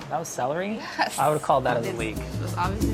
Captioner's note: upbeat music; laughs